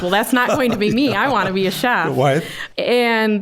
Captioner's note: laughing